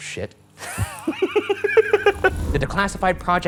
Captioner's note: laughing